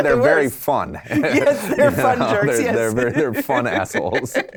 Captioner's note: laughs